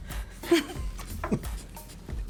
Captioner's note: laughs